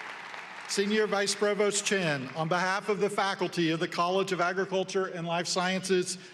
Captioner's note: applause